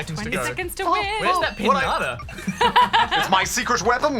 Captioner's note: laughs